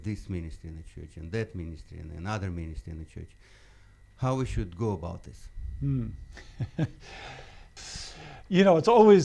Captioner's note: laughs